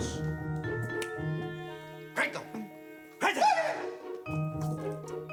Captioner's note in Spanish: Gritos y exclamaciones